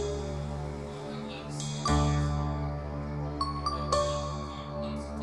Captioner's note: tv playing